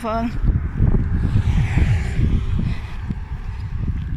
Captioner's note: traffic